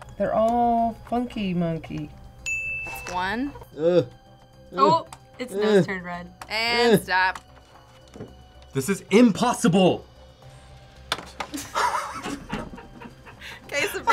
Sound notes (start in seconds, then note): 2.4 bell rings; 11.5 group laughs